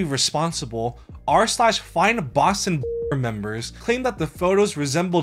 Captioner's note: beep